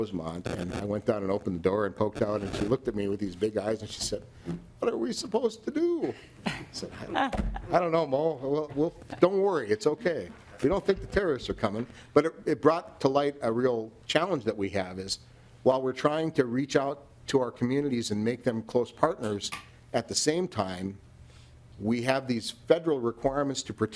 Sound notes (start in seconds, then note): 13.6 laughing